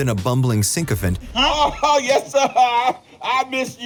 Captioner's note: laughing